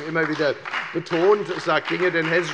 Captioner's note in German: Beifall bei der FDP und bei Abgeordneten der SPD